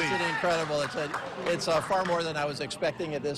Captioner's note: cheers and applause